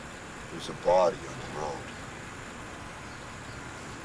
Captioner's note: none